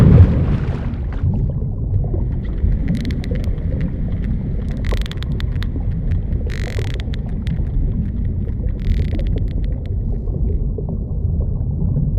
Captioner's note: underwater noises